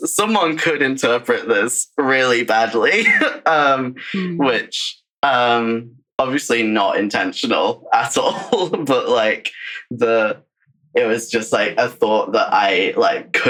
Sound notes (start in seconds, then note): 7.9 laughs